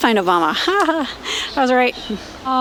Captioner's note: laughs